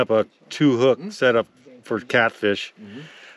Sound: none

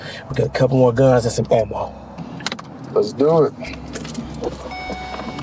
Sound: car beeping

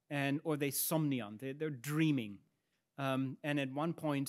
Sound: speaks in Latin

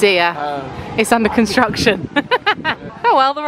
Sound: laughs

